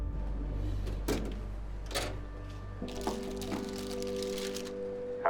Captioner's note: drawer rattling